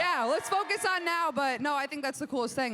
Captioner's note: crowd cheers